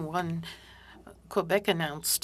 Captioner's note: speaking French